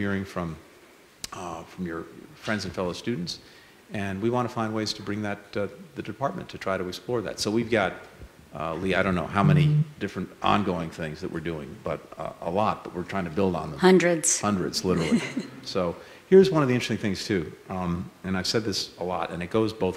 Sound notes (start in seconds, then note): 14.9 laughter